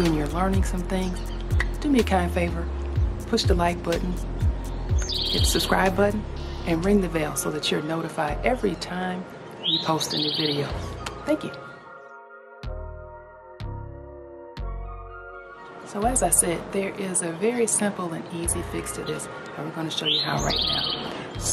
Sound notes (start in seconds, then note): 11.0 claps; 12.7 soft, chilled music